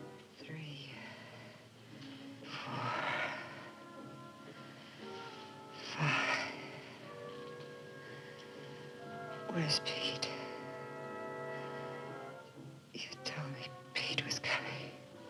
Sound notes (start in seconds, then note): 7.7 breathing heavily